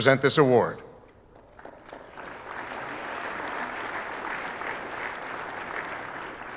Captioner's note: audience applauding